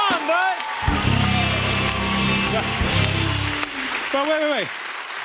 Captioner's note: cheers and applause